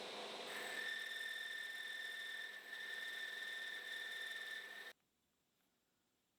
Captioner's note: machine whirring and screeching